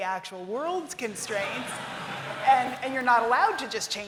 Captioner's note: laughter